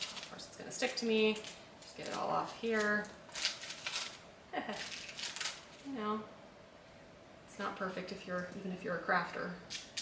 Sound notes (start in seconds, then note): 4.5 chuckles